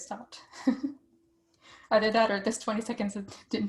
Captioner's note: laughter